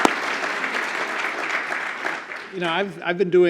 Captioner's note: applause